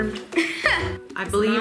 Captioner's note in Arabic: يضحك